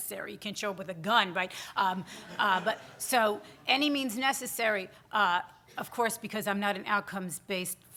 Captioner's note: audience chuckles